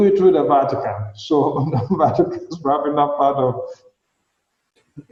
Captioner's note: laughing